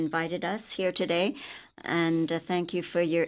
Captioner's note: speaking in French